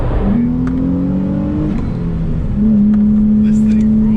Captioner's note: car engine roaring